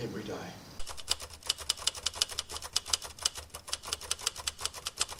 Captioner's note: typewriter clicking